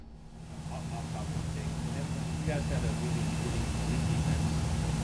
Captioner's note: reporter mumbling